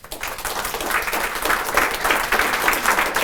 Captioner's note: applause